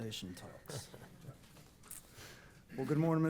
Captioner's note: chuckling